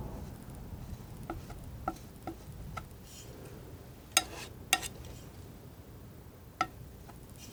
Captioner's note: tapping